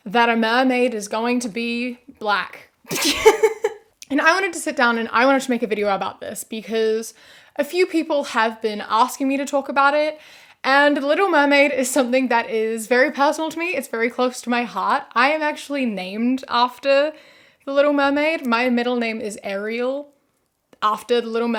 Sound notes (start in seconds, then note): 3.0 laughs